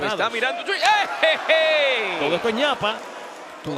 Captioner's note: laugh